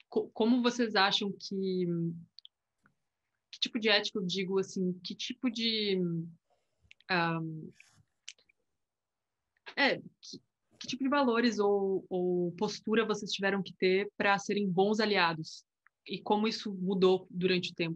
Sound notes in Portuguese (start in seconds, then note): 7.1 silêncio